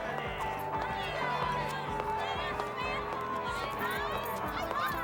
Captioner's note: people chattering